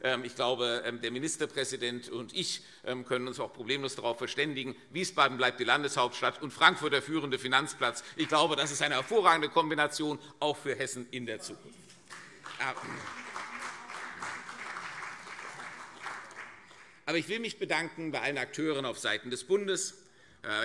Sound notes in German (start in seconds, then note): 12.0 Beifall CDU und SPD